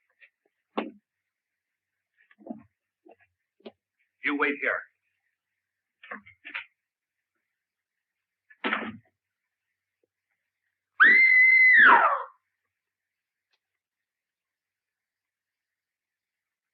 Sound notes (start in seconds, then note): 11.0 screams loudly